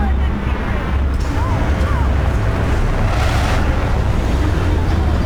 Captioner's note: rumbling